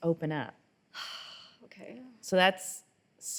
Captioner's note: sighs